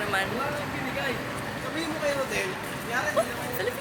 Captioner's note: people walking past speaking Filipino